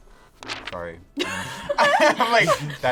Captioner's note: laughs